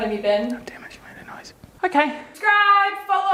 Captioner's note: whispers